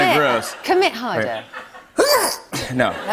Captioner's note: sneezes; laughter